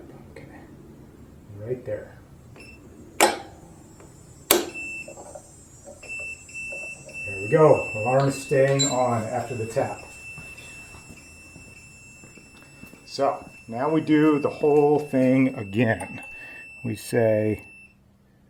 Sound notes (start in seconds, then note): 2.6 short beep; 3.0 whack; 6.1 beeping continues; 17.2 beeping stops